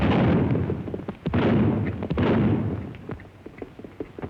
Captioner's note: shot fired; shots fired